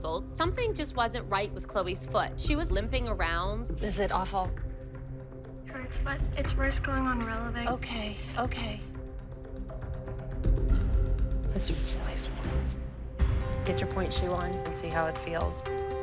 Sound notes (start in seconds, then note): 11.2 whispering; 15.8 tense music plays